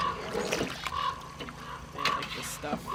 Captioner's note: crow cawing